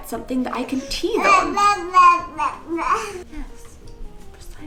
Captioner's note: cooing